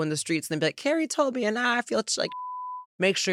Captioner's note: beep